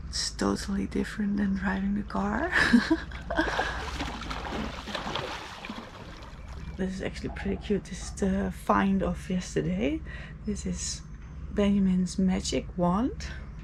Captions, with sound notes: It's totally different than riding a car. (laughs) (water sloshing) This is actually pretty cute, it's the find off yesterday. This is Benjamin's magic wand.